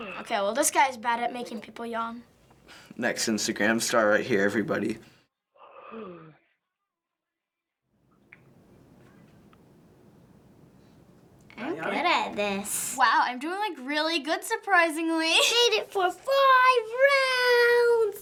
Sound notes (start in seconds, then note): 5.6 boy yawning audibly